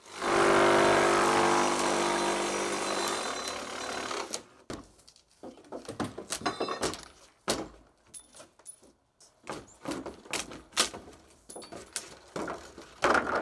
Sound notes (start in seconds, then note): 0.0 saw whirring; 5.3 planks cracking; 9.9 planks cracking